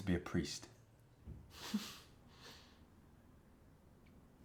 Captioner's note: Johnny chuckles